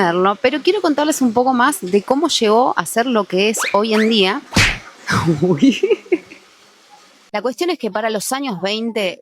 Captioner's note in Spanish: risas